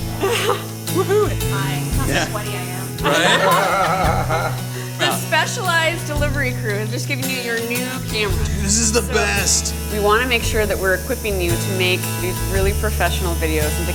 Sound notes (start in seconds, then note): 2.9 laughter